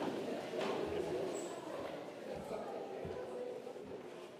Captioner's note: congregation murmurs